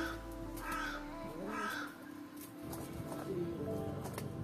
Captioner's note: crows cawing